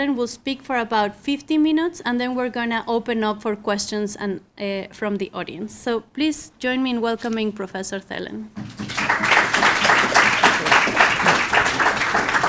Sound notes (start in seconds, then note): 8.6 audience applauds